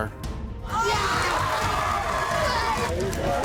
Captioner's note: screaming